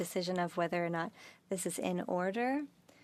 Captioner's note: speaking French